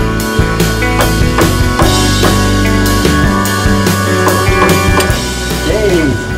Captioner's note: banging